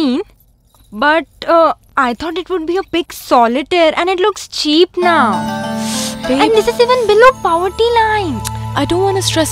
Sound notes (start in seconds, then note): 5.7 Clicks tongue